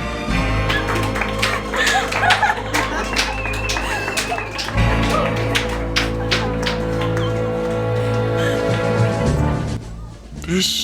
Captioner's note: clapping, laughter, and whistling